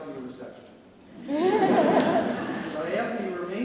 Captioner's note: audience laughs